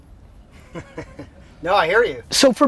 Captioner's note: laughs